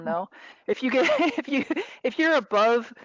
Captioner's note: laughing